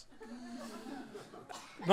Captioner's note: laughter